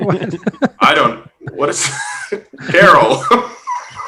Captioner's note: laughs